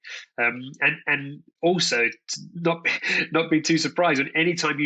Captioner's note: laughs